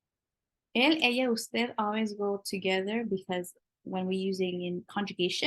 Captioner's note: spanish